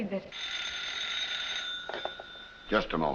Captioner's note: telephone ringing